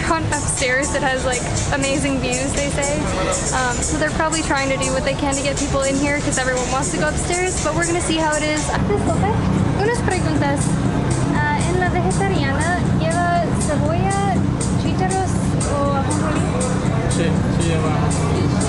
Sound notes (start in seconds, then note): none